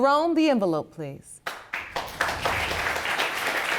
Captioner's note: audience applauding